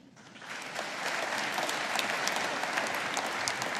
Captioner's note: audience applauding